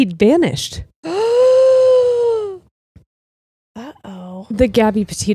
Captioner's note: gasps